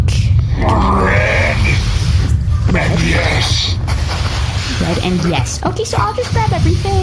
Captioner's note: rasps